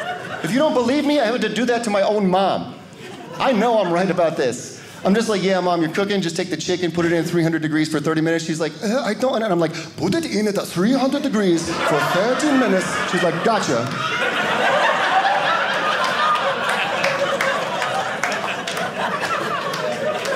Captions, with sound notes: If you don't believe me, I have to do that to my own mom. I know I'm right about this. I'm just like, yeah, Mom, you're cooking. Just take the chicken put it in 300 degrees for 30 minutes. She's like "I don't--" and I'm like, put it in at 300 degrees for 30 minutes. She's like, "gotcha." (audience laughing) (audience clapping)